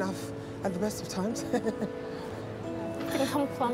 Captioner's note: laughs